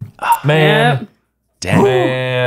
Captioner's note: sighing